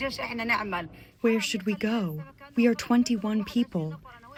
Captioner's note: through translator